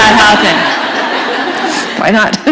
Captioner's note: laughter